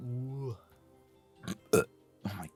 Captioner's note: burp